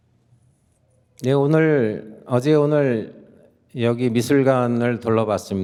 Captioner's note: speaking in Korean